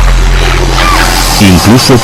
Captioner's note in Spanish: gemido